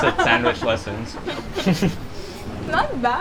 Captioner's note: chuckles